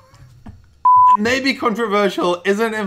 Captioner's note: laughing; beep